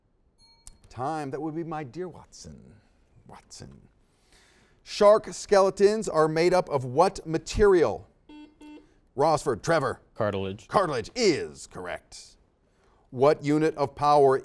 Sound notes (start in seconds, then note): 0.4 dings; 8.2 series of beeps